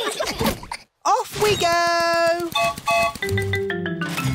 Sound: whistle blows

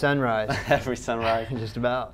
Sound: laughs

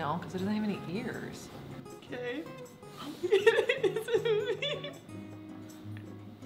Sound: gasps, laughter

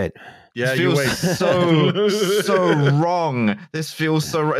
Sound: laughs

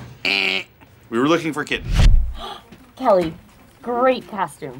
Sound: gasps

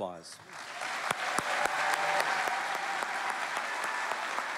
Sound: cheering

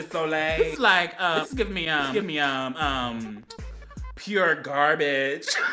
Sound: laughs

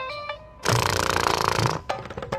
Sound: snoring

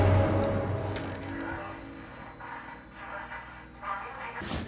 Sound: chair squeaks

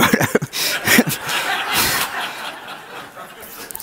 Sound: audience laughs

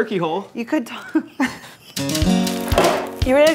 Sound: laughing

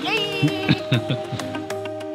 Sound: laugh

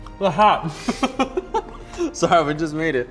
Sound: laughing

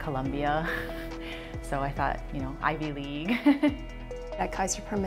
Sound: chuckle

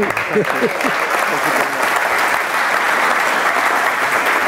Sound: audience applauding

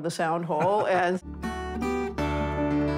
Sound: laughs

